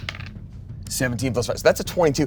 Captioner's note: die rolls